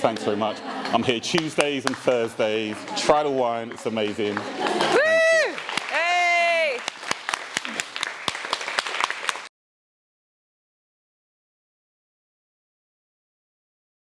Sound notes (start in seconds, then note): 4.4 audience applause